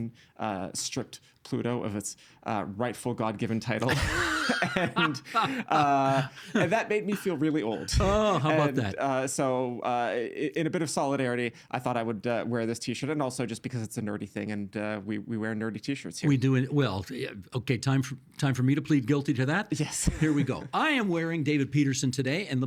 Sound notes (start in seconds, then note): 3.8 laughing